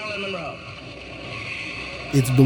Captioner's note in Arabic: تصفيق الجمهور